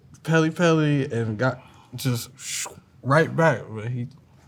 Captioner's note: inhales